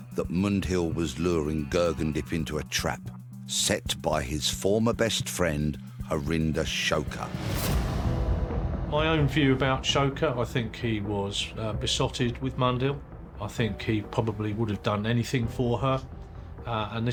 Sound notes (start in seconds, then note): 7.0 intense whoosh